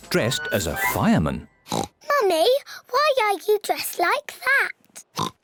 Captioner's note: oinks; oinks